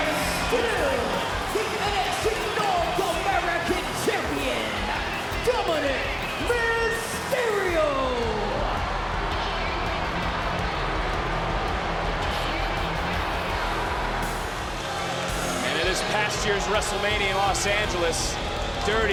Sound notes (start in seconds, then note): 9.9 crowd boos; 9.9 intense theme music